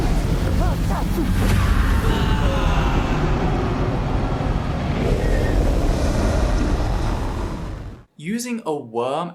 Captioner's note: screaming